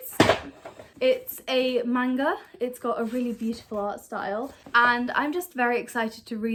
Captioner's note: sound of notebook falling off lap